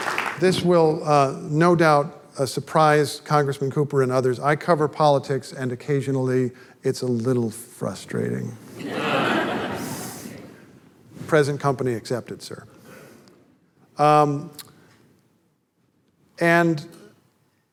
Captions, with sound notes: This will no doubt surprise Congressman Cooper and others, I cover politics and occasionally it's a little frustrating. [audience laughter] Present company accepted, sir. And --